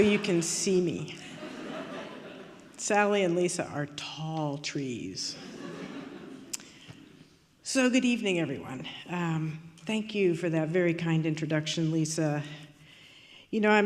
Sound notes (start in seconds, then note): 5.4 audience laughing